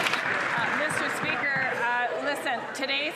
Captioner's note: some Applause